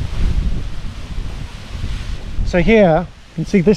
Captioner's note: wind blows; paraglider crinkling